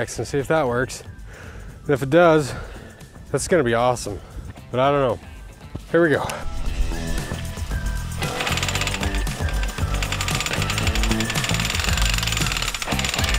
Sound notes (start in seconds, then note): 8.2 loud drilling